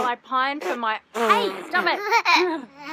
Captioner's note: spitting